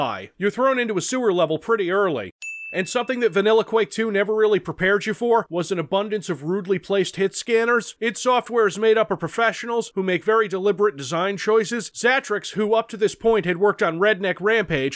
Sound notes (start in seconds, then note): 2.4 Sewer Counter Ding